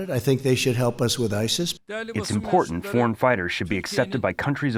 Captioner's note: through translator